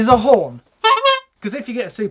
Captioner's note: horn honks